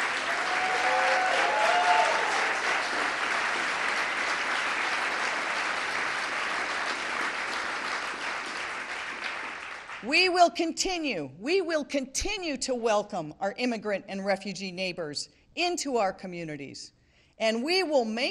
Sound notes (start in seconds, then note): 3.8 applause; 4.7 cheering